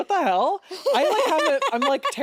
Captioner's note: laughs